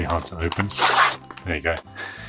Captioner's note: paper ripping